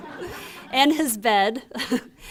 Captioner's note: laughter